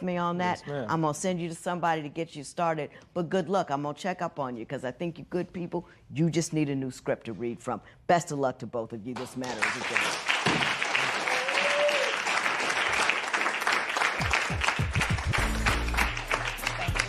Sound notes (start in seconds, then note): 10.6 gavel bangs; 11.6 applause